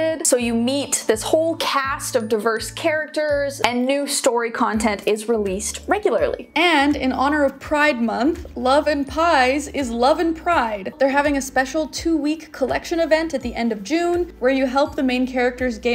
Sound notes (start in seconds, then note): none